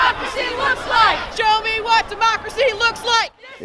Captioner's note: chanting